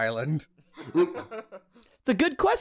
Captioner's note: laughter